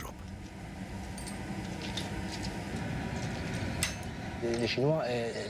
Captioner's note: chains clinking